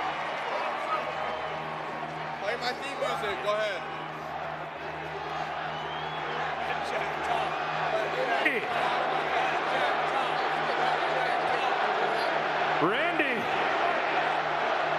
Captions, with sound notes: BEST BASEBALL TEAM IN THE WORLD. CHEERING . CHEERING [APPLAUSE] [APPLAUSE]